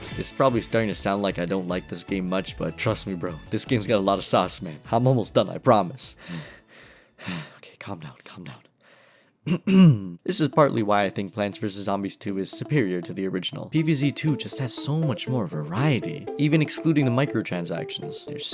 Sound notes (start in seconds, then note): 6.1 deep breaths; 9.4 ahem